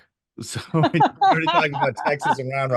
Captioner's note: pair laughs